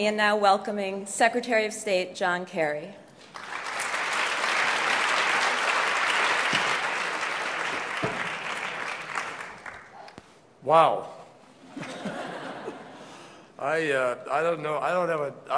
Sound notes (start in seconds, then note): 3.2 applause